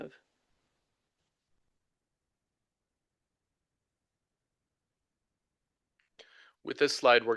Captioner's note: silence